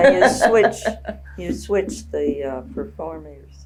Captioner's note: laughs